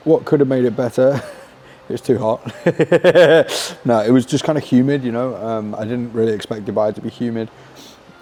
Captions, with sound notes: What could have made it better? (chuckles) It's too hot. (laughs) No, it was just kind of humid, you know, I didn't really expect Dubai to be humid.